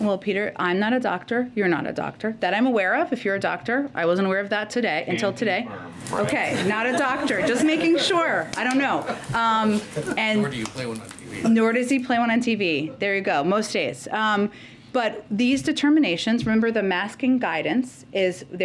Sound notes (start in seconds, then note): 6.0 laughter